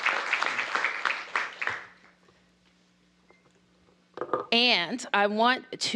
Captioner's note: applause